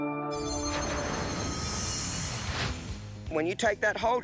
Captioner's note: light upbeat music; air whooshing